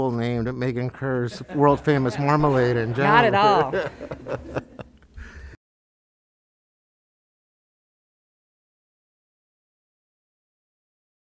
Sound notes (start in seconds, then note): 4.0 man laughs